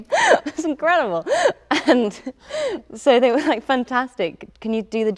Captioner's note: laughs